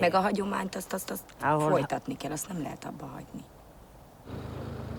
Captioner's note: speaking in foreign language